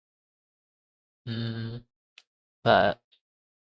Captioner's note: realization noises